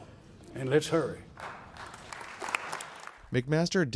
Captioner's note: applause